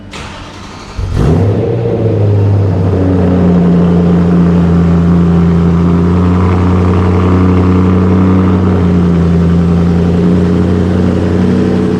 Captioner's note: Lovely noise from the BMW M3